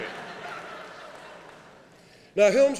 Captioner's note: laughing